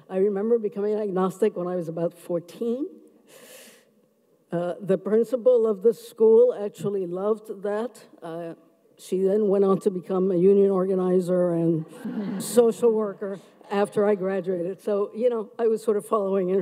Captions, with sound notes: I remember becoming an Agnostic when I was about 14. The principal of the school actually loved that. She then went on to become a union organizer, (audience laughs) and social worker after I graduated, so you know I was sort of following